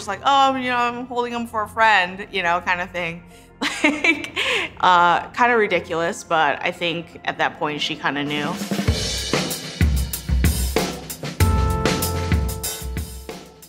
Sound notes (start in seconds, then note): 3.6 laughs; 8.8 upbeat music